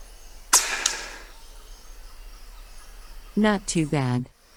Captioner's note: shot clanks; gun blasts